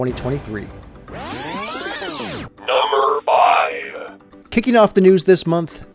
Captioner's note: electronic buzzing